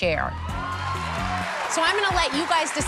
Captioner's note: cheers and applause